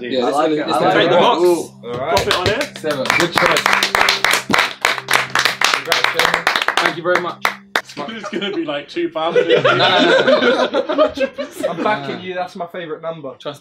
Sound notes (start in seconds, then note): 4.4 all clapping; 9.2 all laughing